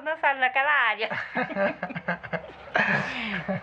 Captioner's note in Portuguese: risadas